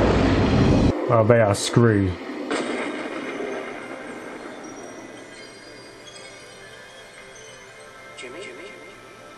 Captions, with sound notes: They are screwed. [twinkling sounds]